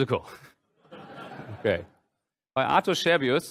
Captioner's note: laughter